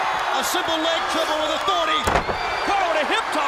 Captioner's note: crowd cheering